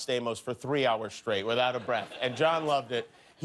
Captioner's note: laughter